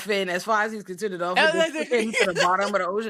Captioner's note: laughing